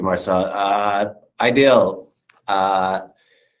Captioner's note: non-english speech